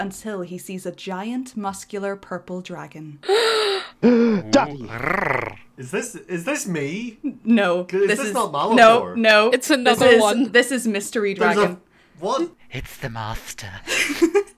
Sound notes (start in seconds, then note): 3.3 gasps; 4.0 horny noise